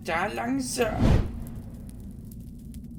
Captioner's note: woosh